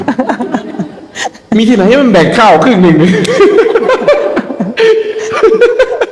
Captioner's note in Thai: เสียงหัวเราะ